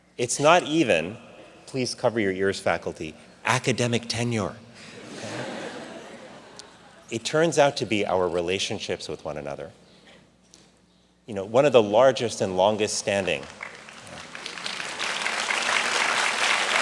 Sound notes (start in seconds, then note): 4.8 audience laughs; 13.0 audience clapping